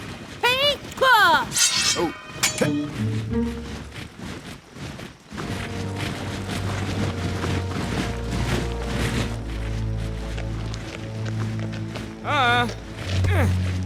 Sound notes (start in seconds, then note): 5.3 troops marching